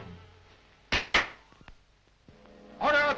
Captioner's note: Unga Khan claps